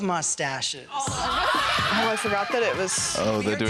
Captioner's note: girls laughing